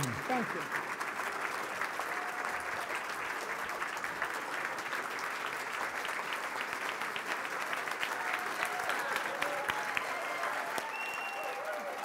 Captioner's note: applause